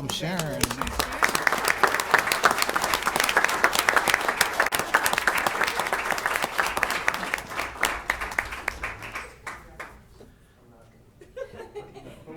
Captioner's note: applause